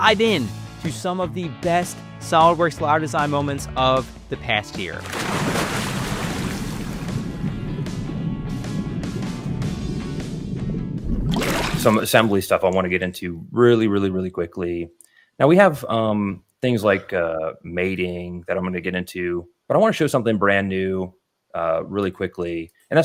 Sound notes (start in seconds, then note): 5.0 water splashing; 5.2 energetic music continues